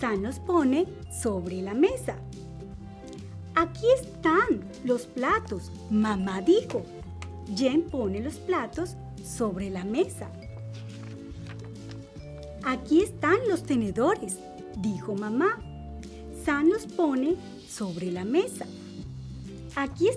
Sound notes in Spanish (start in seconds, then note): none